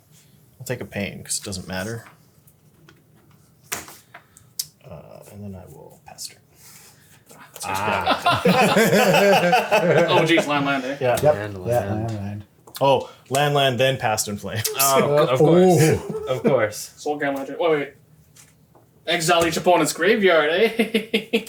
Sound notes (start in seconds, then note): 7.5 laughs